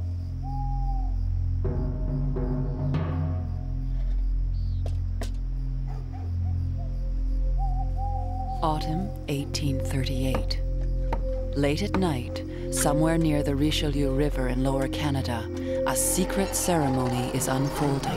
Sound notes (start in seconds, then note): 3.5 knocking